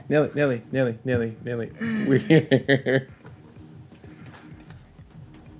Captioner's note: laughs